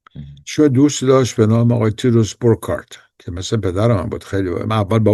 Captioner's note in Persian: گلویش را صاف می‌کند